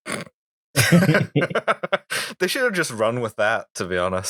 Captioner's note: laughter